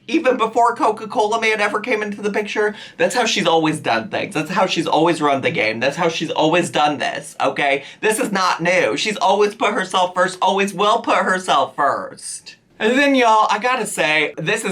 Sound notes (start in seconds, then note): none